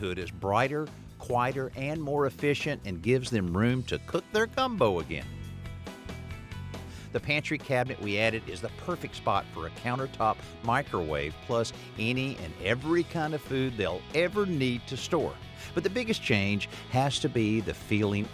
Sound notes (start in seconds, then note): none